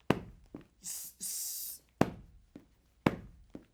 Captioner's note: hisses